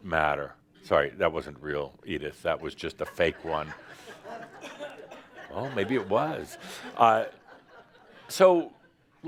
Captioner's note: laughter